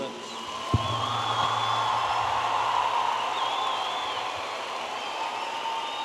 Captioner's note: audience applauding and cheering